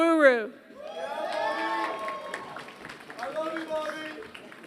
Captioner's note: applause